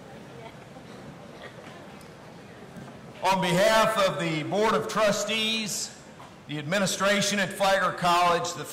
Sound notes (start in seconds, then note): 1.2 chuckles